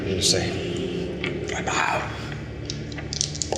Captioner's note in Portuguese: sussurra